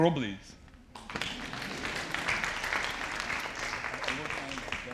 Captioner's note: audience applauding